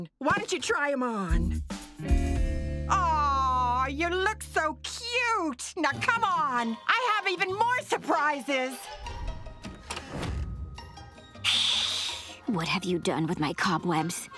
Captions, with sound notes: Why don't you try 'em on? Aw, you look so cute! Now come on, I have even more surprises! [hissing] What have you done with my cobwebs?